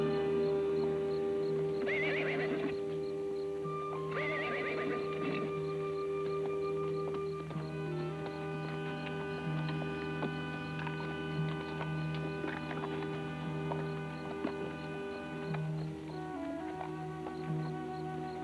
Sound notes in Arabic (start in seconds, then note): 2.3 صهيل الحصان; 6.3 موسيقى متوترة